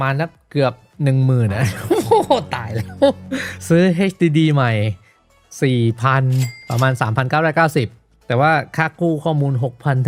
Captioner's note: laughs